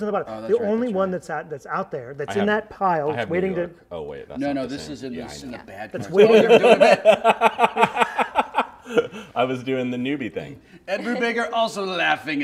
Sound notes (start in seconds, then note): 6.1 laughter